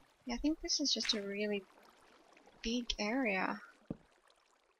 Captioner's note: lava bubbles